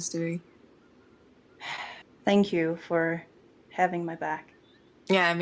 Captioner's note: sighs